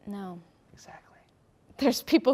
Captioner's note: whispers